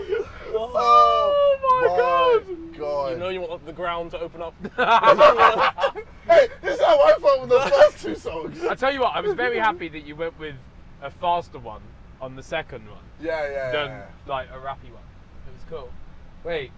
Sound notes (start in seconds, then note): 4.6 laughter